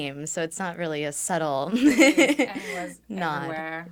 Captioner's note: laughs